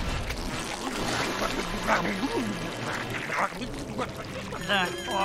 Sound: munching

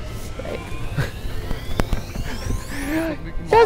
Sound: laughs

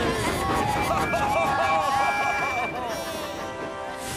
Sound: all the engines cheer and whistle

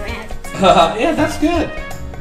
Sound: laughs

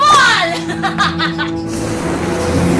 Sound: Divina laughs; sinister music playing

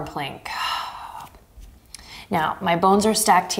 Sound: exhaling strongly

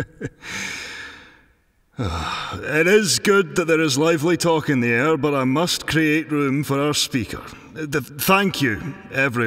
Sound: chuckle

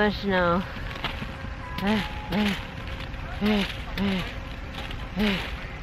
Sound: grunt grunt

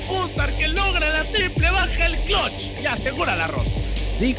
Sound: foreign language

